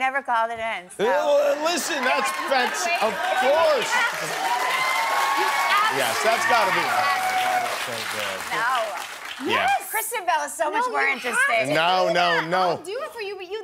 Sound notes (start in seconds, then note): 10.0 cheers and applause